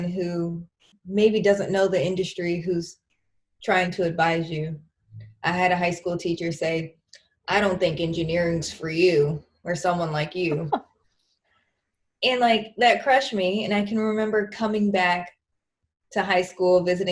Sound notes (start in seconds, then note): 10.5 laughs